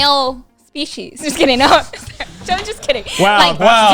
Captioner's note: laughs